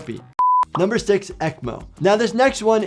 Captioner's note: beep